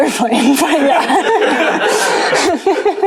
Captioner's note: laughter